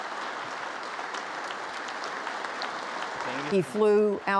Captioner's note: congress applauding